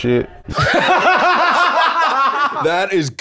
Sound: both laughing

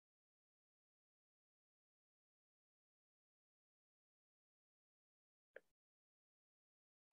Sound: silence

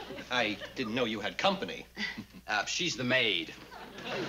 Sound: chuckles

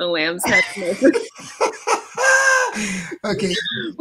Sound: laughing

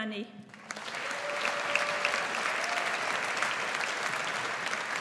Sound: audience applauds

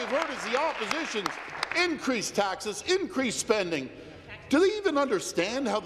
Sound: applause

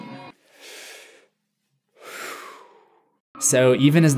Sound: deep breath

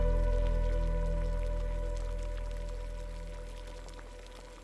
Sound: pot bubbling

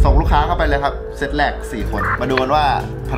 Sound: radio

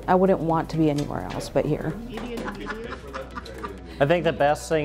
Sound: laughing

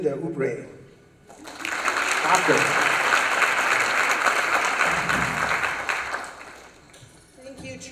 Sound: applause

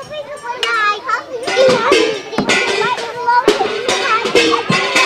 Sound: metal clangs over conversation

